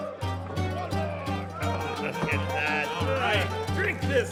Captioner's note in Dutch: vrolijke muziek gaat verder; mannen mompelen